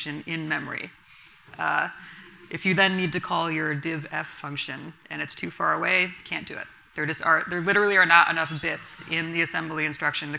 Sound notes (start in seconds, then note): none